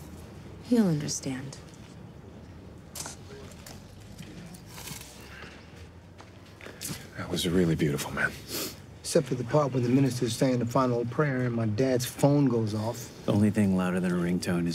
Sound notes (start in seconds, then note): 8.4 sniffles